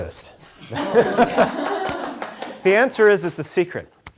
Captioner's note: laughing; scattered clapping